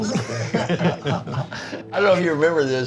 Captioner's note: laughing